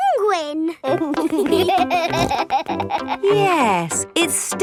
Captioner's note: laughing